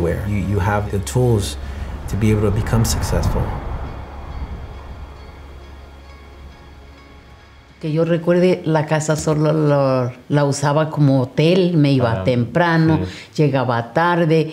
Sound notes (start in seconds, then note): 7.8 spanish conversation